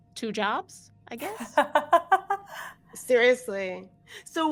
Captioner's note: laughs